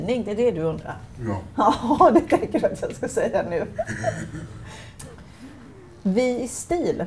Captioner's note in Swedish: Skratt